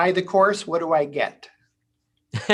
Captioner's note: chuckles